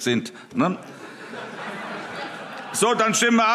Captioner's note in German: Allgemeine Heiterkeit